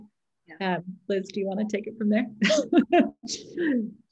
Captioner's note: laughs